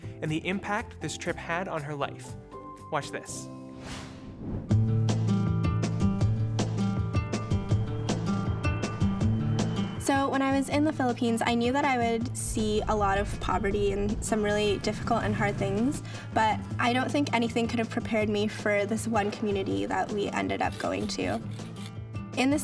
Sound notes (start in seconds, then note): 7.5 airplane engine humming